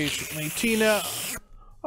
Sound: slurping

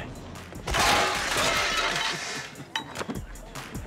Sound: tray clatters

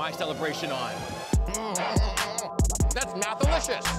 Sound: mumbling hungrily

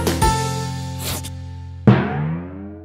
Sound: pencil sound effect; bouncing sound effect

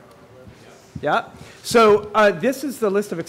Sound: audience murmurs

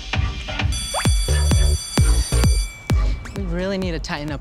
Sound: upbeat music; bell rings

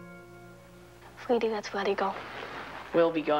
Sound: Molly speaking in foreign language

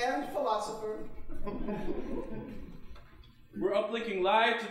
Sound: audience chuckling

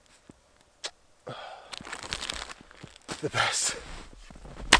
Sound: sighs

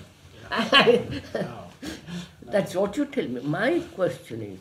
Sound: laughs

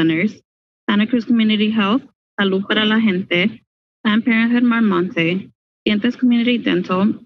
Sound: speaking in foreign language

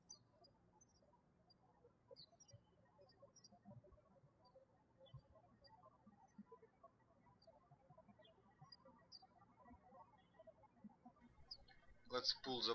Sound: birds chirping

